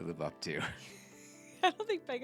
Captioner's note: laughs